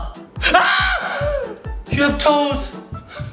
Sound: yells

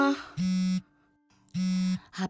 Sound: handphone buzzing

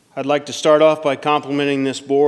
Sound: none

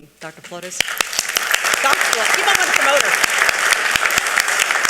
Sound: audience applauding

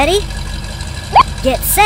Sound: beep

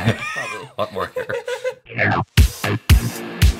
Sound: both laugh; laughs

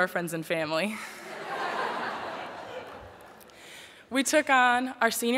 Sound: laughter

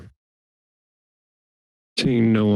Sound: silence

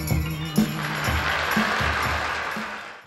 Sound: audience clapping

